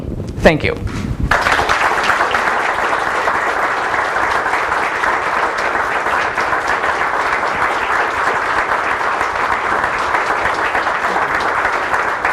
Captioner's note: applause